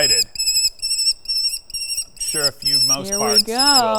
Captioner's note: owl screeching